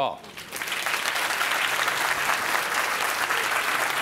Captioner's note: audience clapping